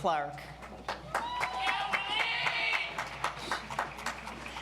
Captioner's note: audience applauds